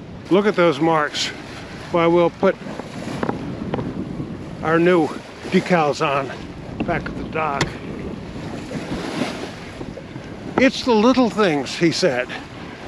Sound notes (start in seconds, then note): none